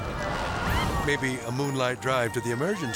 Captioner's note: flames crackling